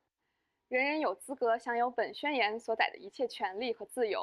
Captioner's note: speaking chinese